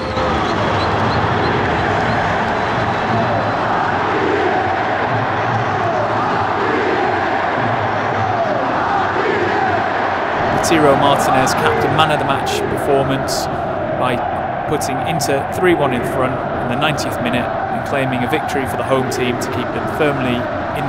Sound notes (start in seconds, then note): 0.2 crowd singing and cheering; 4.4 crowd